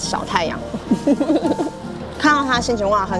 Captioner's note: haha